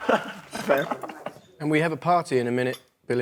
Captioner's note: laughs